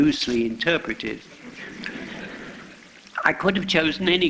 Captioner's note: laughter